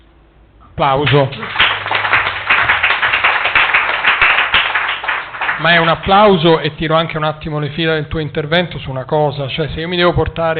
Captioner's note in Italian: Applauso